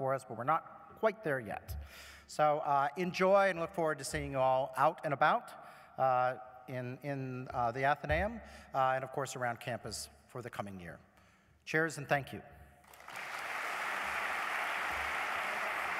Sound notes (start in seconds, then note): 12.8 applause